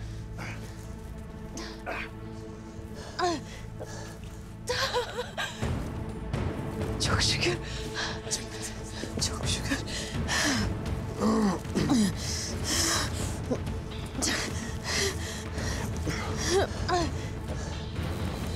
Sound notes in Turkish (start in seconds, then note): 0.0 Nefes sesleri; 4.7 Gülme sesi; 11.1 Nefes sesleri; 14.5 Nefes sesleri